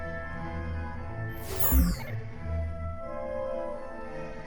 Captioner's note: digital error noises